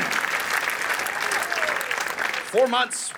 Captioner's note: audience cheering